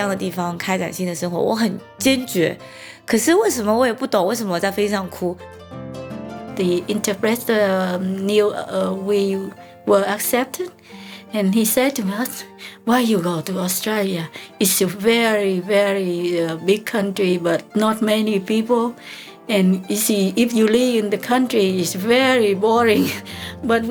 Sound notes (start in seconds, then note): 0.1 in Mandarin